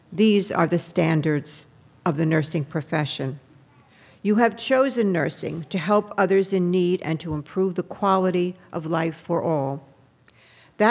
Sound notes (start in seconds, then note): none